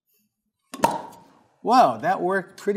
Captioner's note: pop